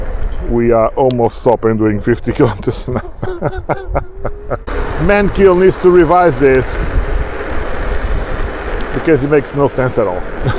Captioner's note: laughs